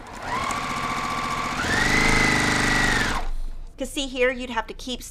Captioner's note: machine sewing